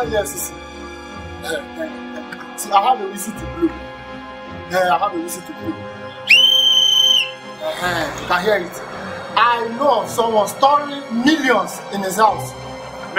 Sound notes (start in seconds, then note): 6.1 blows whistle